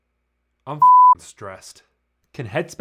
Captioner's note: beeps